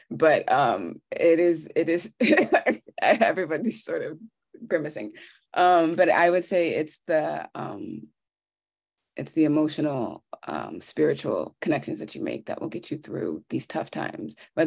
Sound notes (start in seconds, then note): 2.4 laughing